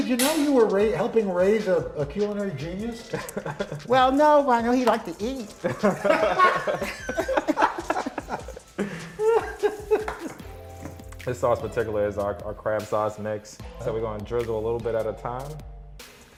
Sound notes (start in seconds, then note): 5.6 laughter